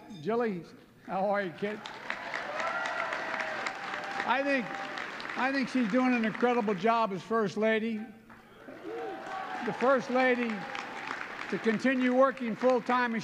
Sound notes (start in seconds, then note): 1.6 applause; 8.3 applause